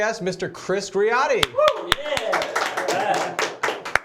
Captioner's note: applause